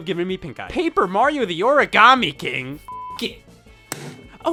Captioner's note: beep